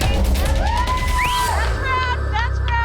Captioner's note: patrons cheering